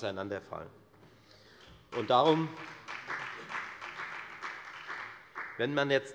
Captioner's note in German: Beifall bei der FDP und bei Abgeordneten der SPD